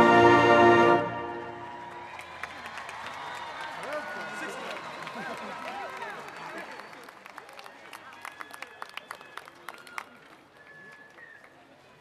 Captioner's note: applause